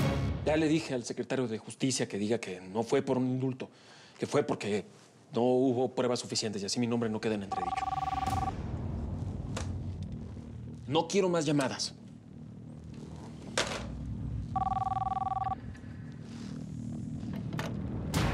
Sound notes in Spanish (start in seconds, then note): 7.5 suena el teléfono; 14.5 vuelve a sonar el teléfono